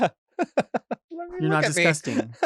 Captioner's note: giggles